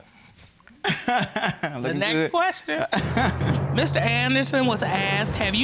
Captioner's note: laughs